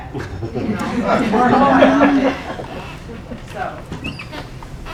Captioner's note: laughing